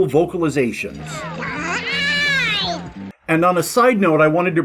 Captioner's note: panicked yell in Beaglespeak